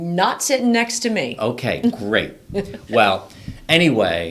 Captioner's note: laughs